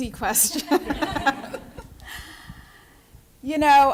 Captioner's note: laughter